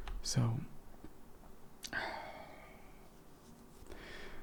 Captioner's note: sighs